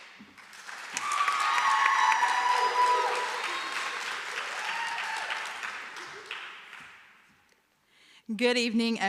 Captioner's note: applause; cheering